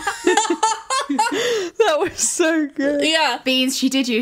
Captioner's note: laughing